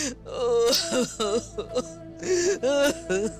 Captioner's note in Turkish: Hayme ağlıyor